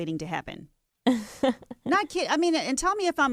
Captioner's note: laughs